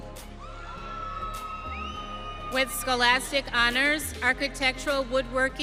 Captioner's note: audience cheering